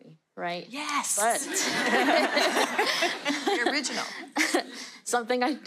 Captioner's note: audience laughter